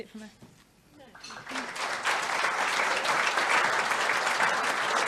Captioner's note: audience applauds